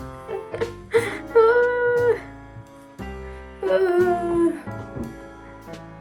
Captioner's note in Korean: 오열